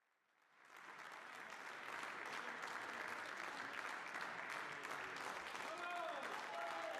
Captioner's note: cheers and Applause; applause